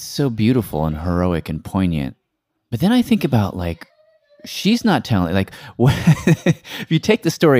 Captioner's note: laughs